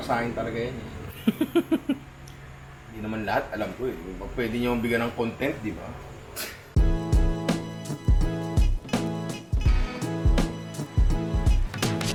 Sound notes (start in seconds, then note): 1.1 laughs; 6.8 outro music